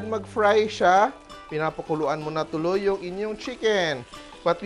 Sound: sizzle

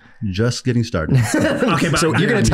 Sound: laughs

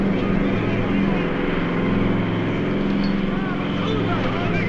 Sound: airplane Circling; shouting Continues

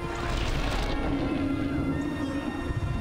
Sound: thunder

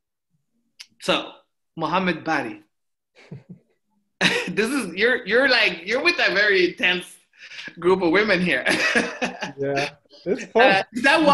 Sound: laughs

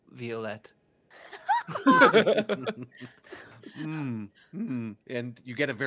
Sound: multiple chuckling

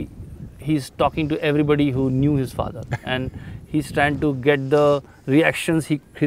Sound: Sadhguru laughs

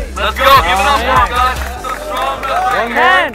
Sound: crowd clapping hands

